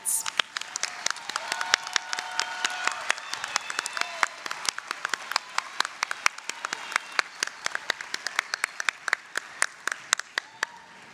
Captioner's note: applause, cheering